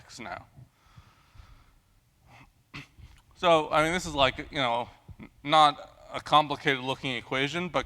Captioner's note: cough